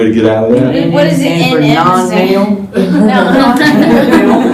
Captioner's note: laughter